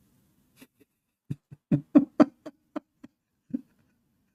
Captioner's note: Ketawa